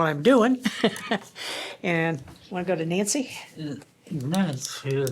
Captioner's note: laughter